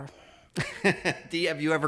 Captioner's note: laughing